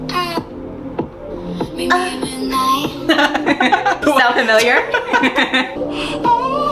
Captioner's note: laughing